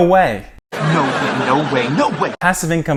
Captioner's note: crowd laughing